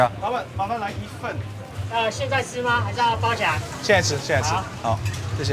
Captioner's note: group speaking foreign language